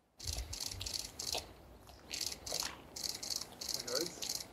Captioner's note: camera shutters clicking